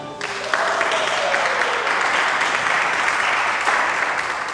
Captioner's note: clapping